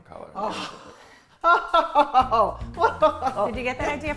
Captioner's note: laughing